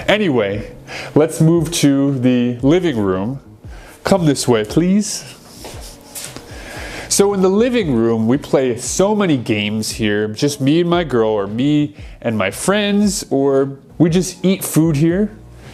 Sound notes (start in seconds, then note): none